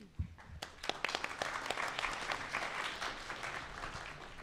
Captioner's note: audience applauding